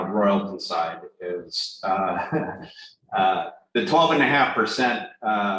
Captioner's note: laughs